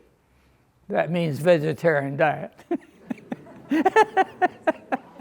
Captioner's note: giggles